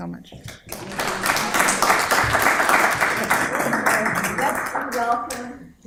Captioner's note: applause